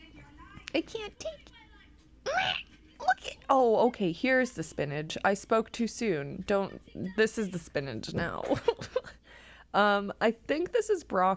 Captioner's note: strange clown noises